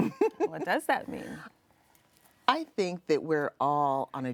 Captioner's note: interviewee chuckling